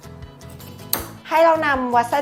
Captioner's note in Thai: เสียงตัด